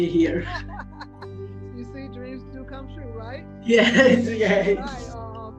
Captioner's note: laughs